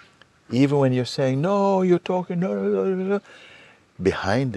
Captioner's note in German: imitiert laute Stimmen